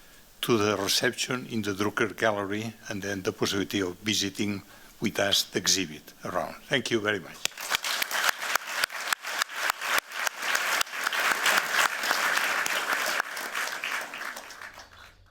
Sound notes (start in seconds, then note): 7.4 applause